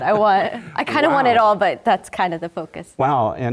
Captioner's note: laugh